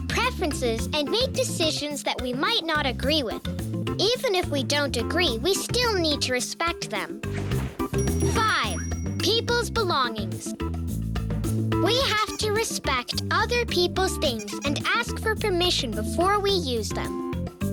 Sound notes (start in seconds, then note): 7.6 bell ringing; 14.2 squeaking